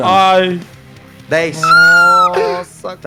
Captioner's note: thin scream